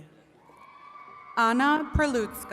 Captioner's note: attendees cheering